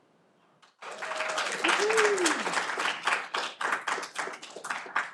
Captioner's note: audience applauding